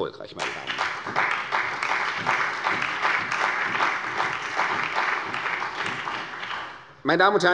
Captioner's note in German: Beifall bei der CDU und dem BÜNDNIS 90/DIE GRÜNEN